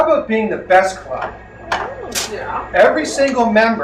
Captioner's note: crowd whoos